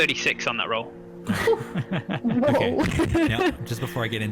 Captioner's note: laughter